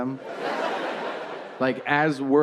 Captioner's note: audience laughing